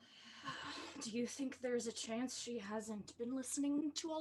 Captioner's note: sigh